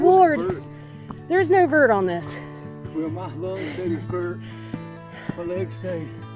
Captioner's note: laughing out of breath